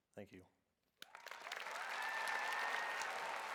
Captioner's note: cheers; applause